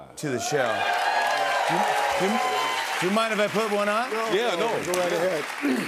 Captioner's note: cheers and applause